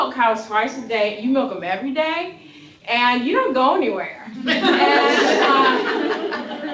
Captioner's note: laughter